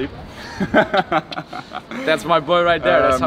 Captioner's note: laughs